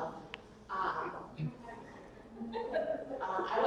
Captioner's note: audience member laughs